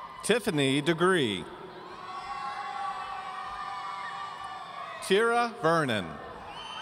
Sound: audience cheering

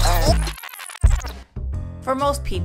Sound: tape rewinding

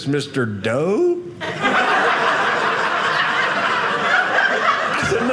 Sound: audience laughing

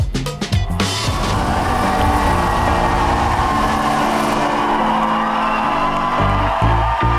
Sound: jazzy upbeat music; crowd cheering

